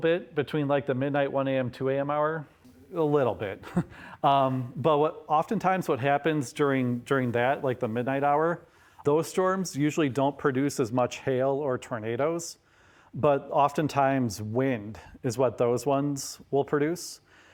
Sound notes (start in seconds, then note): 3.4 chuckles